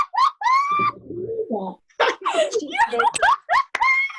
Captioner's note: laughter